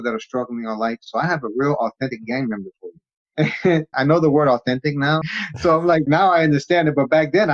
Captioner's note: laughs